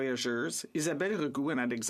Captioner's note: speaking French